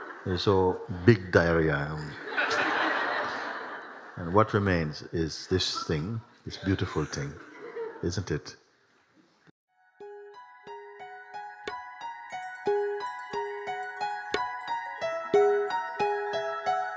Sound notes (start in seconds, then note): 2.1 laughter